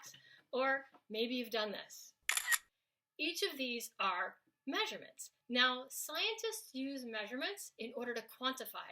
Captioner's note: snaps photo